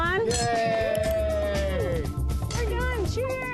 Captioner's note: all cheering